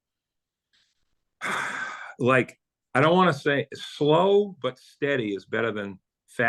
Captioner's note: sighs